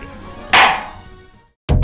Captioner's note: gavel clack